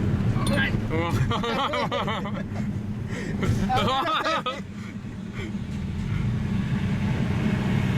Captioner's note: laughs; laughs